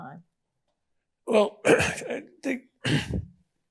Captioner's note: clears throat